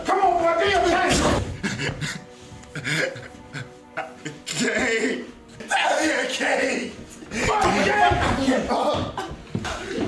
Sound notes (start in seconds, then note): 7.1 kick; 9.0 crying